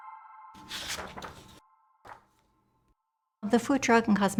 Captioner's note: page turning